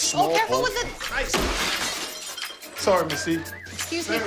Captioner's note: dishes break